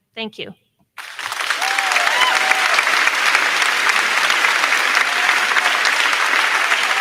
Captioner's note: crowd cheering; crowd clapping